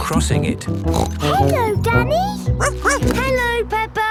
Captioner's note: snorts; barks